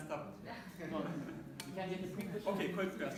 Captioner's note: laughter